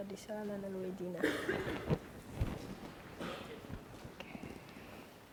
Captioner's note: speaking foreign language